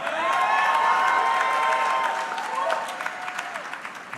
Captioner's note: audience clapping